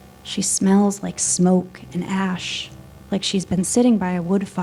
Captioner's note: none